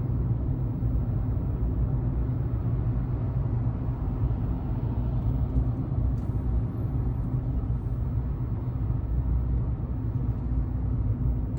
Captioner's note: car noise